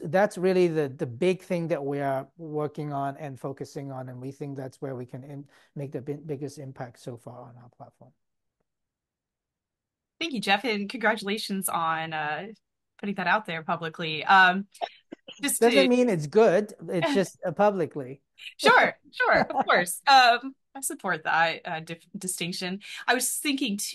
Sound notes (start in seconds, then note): 17.0 laughs